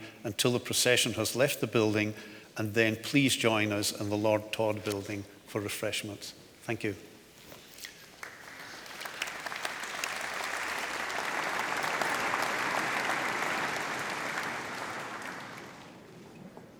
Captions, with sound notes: until the procession has left the building, and then please join us in the Lord Todd Building for refreshments. Thank you. (audience applauds)